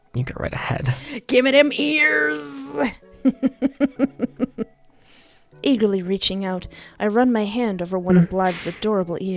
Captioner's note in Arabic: ضحك